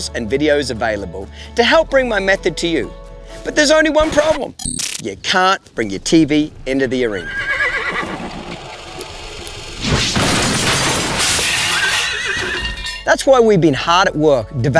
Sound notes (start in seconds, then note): 7.0 horse neighing; 9.9 glass breaking; 11.4 horse neighing